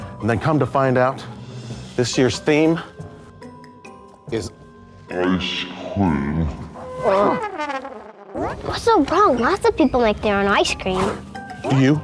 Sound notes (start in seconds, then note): 5.4 echoing Voice; 6.8 trumpet sounds